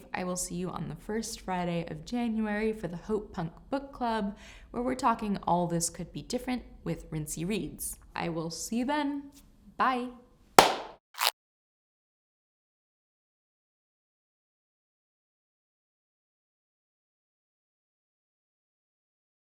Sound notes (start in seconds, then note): 10.6 clap resounds; 11.1 tape ripping